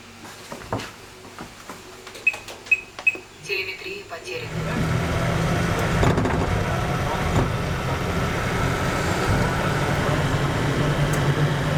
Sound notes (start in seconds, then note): 3.1 computer voice